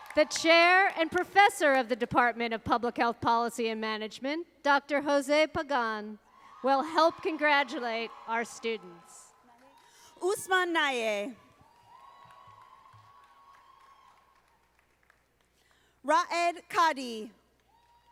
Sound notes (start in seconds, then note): 11.5 audience applauding